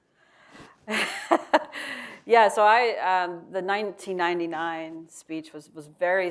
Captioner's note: laughs